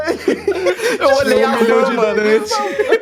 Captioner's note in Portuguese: Risadas